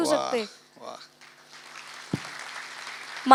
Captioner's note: audience applauds